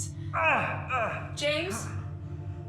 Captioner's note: falling painfully